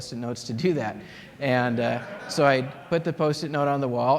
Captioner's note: laughter